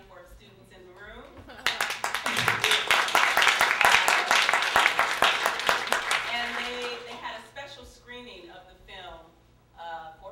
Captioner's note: applause